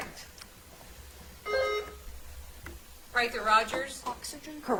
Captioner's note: bell ringing